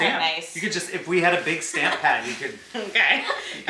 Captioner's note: laughs